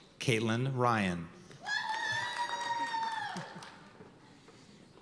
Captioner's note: cheers and applause